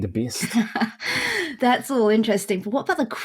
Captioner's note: laughing